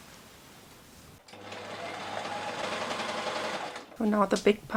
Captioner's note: serger sounds